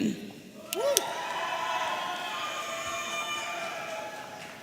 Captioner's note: audience cheering